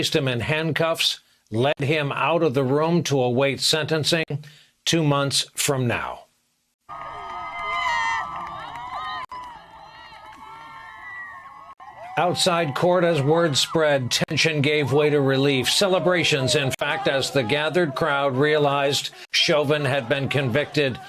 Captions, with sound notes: >> AND WITH THAT IT WAS ALL OVER. THE JURY WAS DISMISSED. COURT OFFICERS WENT OVER TO CHAUVIN, PLACED HIM IN HANDCUFFS, LED HIM OUT OF THE ROOM TO AWAIT SENTENCING TWO MONTHS FROM NOW. [ CHEERS ] OUTSIDE COURT AS WORD SPREAD